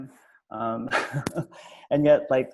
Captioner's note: laughs